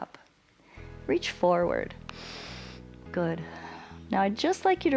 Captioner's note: inhales